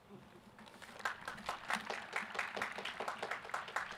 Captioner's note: applause